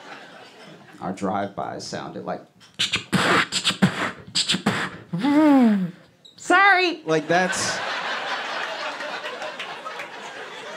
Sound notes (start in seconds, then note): 2.4 mimicks gunshots; 7.2 laughter